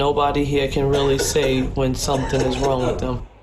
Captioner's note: man coughing